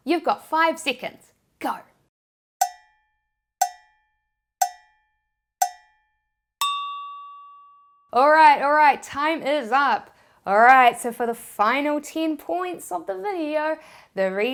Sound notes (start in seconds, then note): 2.6 cowbell tolls rhythmically; 6.6 bell dings